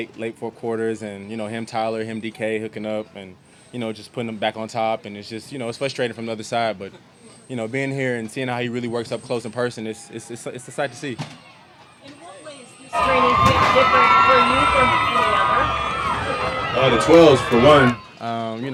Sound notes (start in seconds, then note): 12.8 crowd cheers